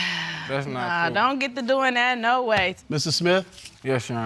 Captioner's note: sighs